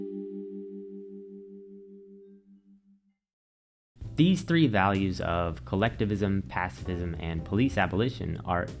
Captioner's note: transition Ding